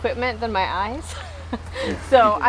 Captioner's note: laughing